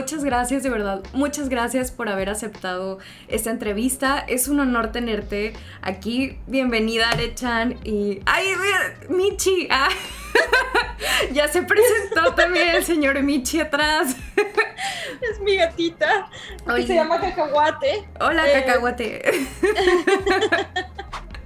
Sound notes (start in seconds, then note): 9.8 laughter; 19.2 laughter